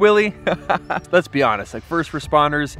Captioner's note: laughs